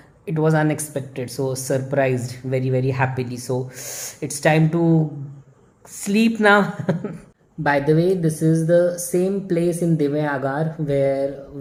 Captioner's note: chuckles